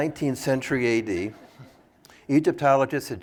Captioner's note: laughter